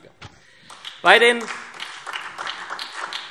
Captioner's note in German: Beifall SPD